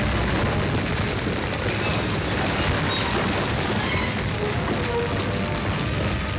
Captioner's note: ground rumbling and cracking